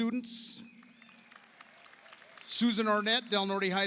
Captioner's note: audience applauds